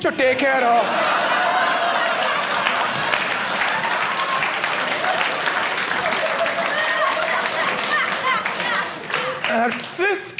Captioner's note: audience laughing